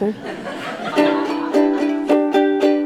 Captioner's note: audience laughing; ukelele music